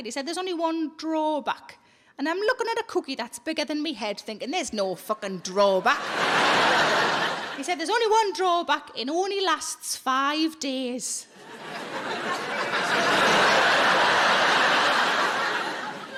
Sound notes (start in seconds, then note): 11.4 audience laughing